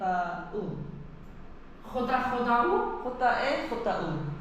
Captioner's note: in spanish, j=hota